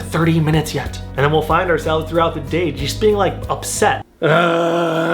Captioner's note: grunting